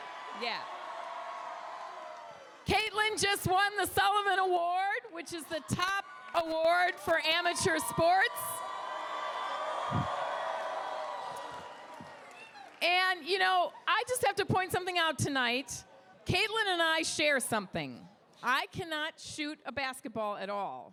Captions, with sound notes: Yeah, yeah. Caitlin just won the Sullivan Award which is the top award for amateur sports. (crowd cheers) And you know, I just have to point something out tonight. Caitlin and I share something. I cannot shoot a basketball at all